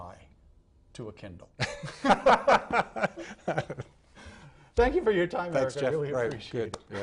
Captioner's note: laughing